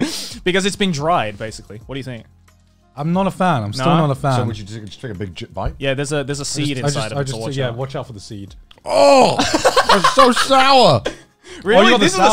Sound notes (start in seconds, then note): 9.2 laughing